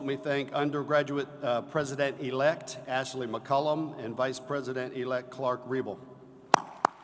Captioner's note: applause